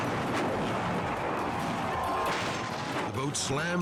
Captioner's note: boat thudding